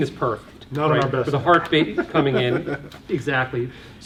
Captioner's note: laughs